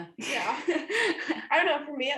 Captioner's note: laughter